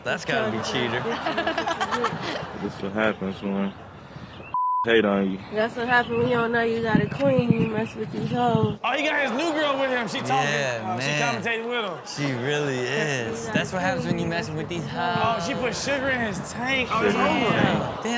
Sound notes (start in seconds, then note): 1.0 Chanel laughs; 4.5 beep